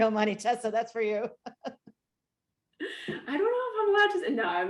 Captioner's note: laughs